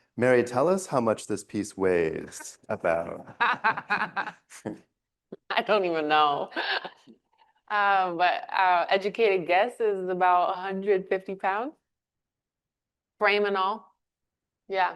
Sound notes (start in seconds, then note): 6.1 laughs